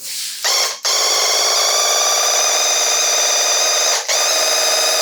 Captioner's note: paint gun blasting